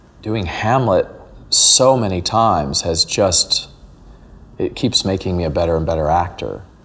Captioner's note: narrating